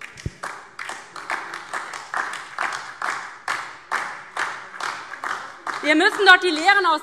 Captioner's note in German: Beifall DIE LINKE, SPD und Freie Demokraten